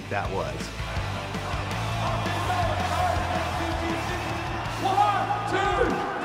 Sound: cheering

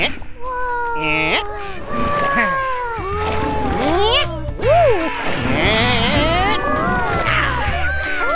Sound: Lythops oooh and aaaaahhh

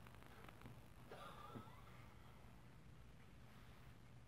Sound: both laughing

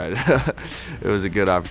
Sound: laughs

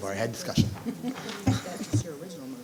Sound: chuckling

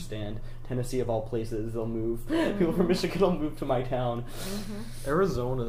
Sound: laughing

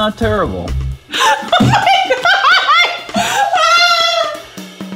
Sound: laughs

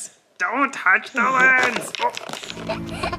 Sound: object clattering; baby chuckling

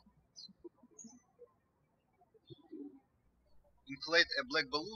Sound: birds chirping

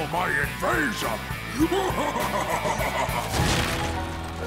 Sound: laughing maniacally

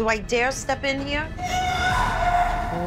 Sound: screaming

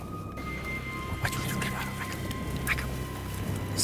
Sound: whispering

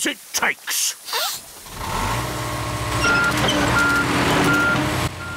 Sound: sniffs; engine roars

